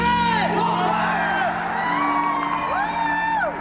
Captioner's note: cheering